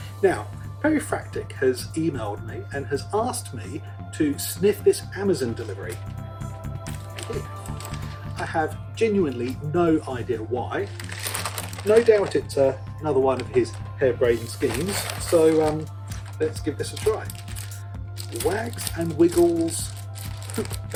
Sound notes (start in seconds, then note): 10.8 bag Rustling